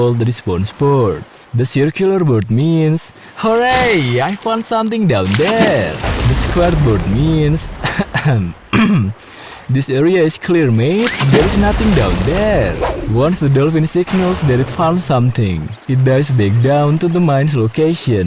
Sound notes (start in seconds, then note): 7.8 coughs; 8.7 clears throat